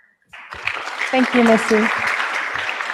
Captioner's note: applause